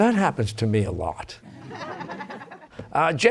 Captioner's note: laughter